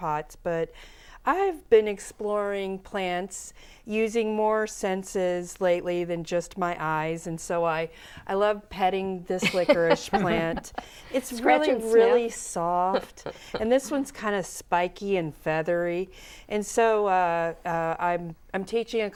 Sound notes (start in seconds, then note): 12.6 laughing